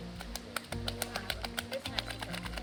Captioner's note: ears flapping